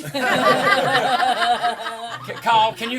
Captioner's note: laughing